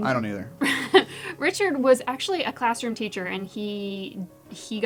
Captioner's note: laugh